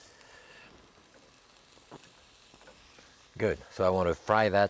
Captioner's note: sizzling